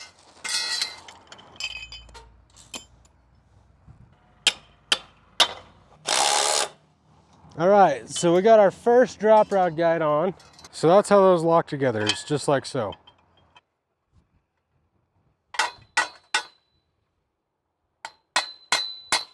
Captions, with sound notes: (metal pole chinking) (mallet banging) (drill whirring) All right, so we got our first drop rod guide on, so that's how those lock together, it's just like so. (mallet banging)